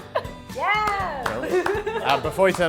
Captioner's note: clapping sound